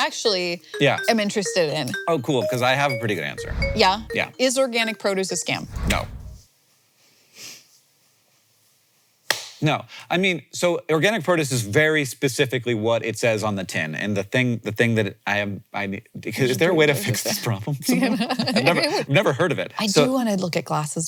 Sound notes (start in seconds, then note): 0.7 gentle music; 9.3 hands thwacking